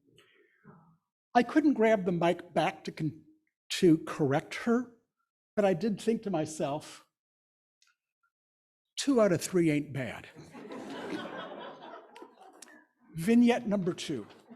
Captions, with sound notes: I couldn't grab the mic back to correct her, but I did think to myself, two out of three ain't bad. (audience laughing) Vignette number two.